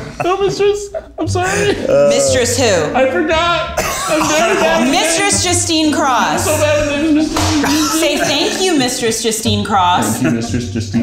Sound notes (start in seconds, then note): 3.7 all laughing; 6.5 mumbling